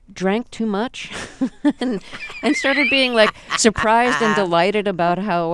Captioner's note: soundbite of laughter